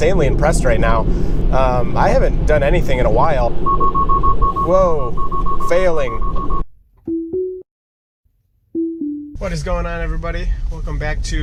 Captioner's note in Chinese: 警笛聲